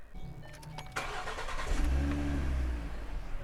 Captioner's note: engine start